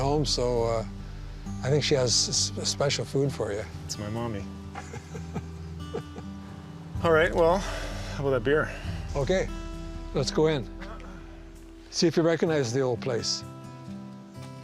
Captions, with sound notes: so I think she has a special food for you. That's my mummy. (chuckling) All right. Well, how about a beer? Okay. Let's go in. See if you recognize the old place.